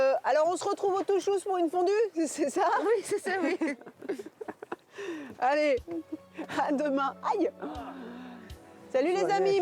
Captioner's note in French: rires